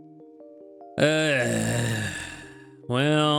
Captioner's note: sighs